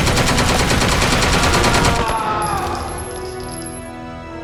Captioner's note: screaming